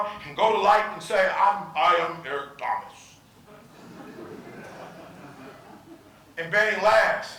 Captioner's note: audience laughing